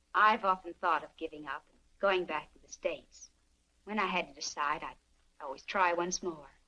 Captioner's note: none